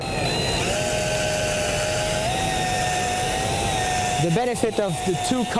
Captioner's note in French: sons de mélange